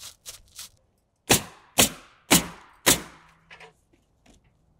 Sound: nail gun bangs

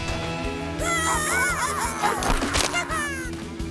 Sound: cheering

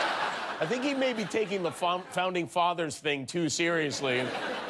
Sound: laughter

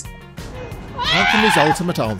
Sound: screaming

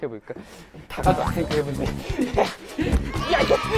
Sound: frustrated

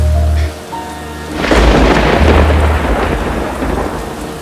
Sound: thunder rumbling

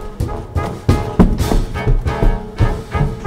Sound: footsteps running

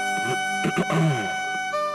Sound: clears throat

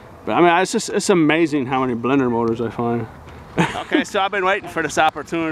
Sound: laughing

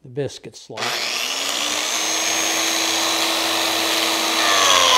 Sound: biscuit joiner buzzing

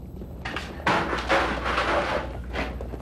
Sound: chair clatters to ground

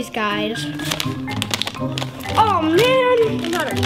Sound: bag crackling

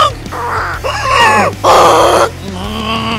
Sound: goose sound

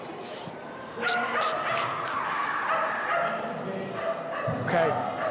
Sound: inhales and imitates stiff body creaking

